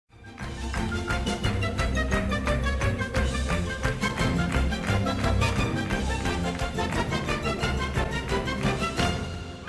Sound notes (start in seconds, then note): 0.1 upbeat orchestral music; 0.1 people clapping